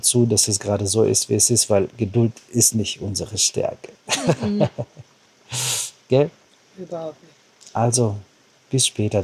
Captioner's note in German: gelächter; schnauben